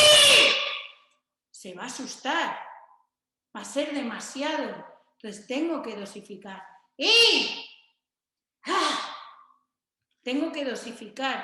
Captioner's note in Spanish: kiai